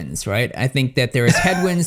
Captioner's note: laughs